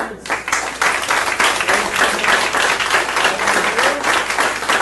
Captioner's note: audience applauding